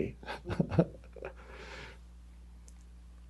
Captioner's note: laughs